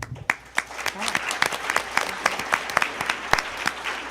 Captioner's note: attendees applauding